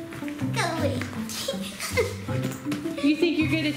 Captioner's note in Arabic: الضحك